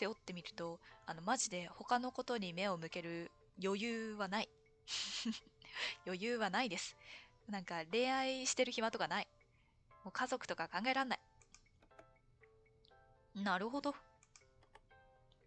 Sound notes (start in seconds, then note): 5.6 laughs